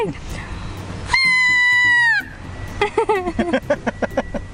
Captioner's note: whistles